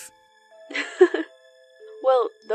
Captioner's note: chuckles